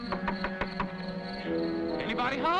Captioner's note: knocking